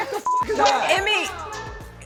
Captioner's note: beep